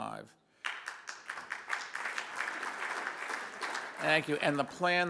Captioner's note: audience applauds